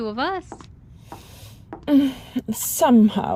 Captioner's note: footsteps